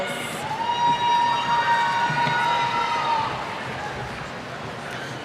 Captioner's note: cheers